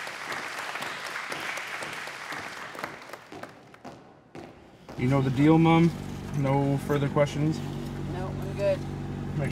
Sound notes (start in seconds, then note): 3.2 footsteps thump in rhythm